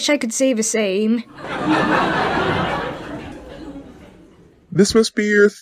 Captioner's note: audience giggles